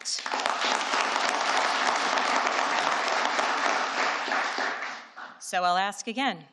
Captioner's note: applause